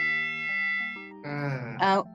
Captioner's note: sigh